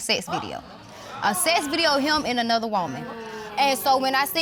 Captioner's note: audience exclaims